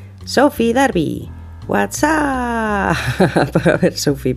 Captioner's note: laugh